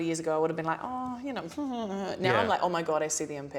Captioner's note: bashful mumbling